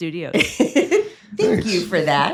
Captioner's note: laughs